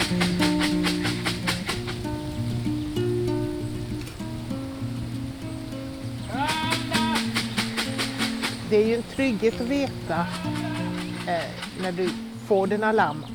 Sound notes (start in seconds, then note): 0.1 calling sheep; 6.2 calling sheep